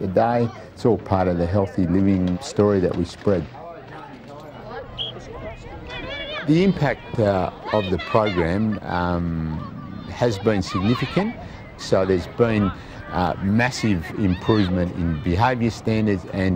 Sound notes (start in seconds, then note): 4.4 chatter, whistle blows